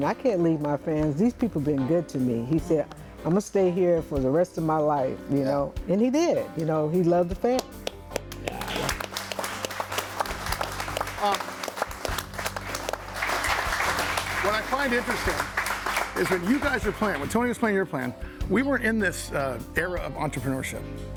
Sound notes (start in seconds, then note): 9.4 audience applauding